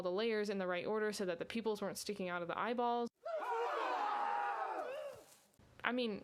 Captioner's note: men screaming